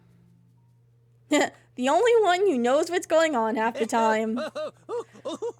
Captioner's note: laughs